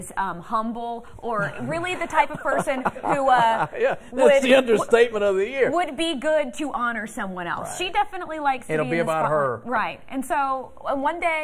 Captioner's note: laughter